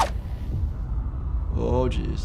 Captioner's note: scene rumbling dramatically